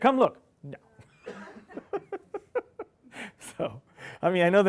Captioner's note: people laughing